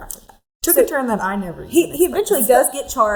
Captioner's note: chuckles